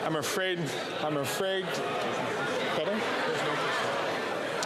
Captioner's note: chatter